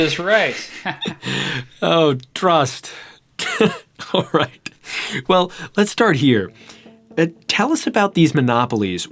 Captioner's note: chuckle